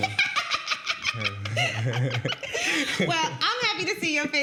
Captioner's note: laughing